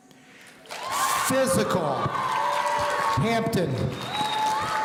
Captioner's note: audience cheering